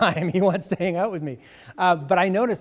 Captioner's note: laughs